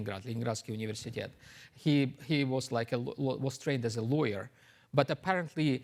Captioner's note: mutters